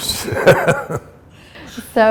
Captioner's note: chuckle